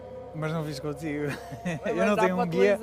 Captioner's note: laughs